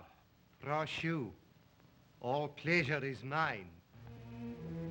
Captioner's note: Zaroff speaks Russian; ominous music